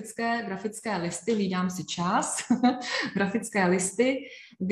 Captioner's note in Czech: smích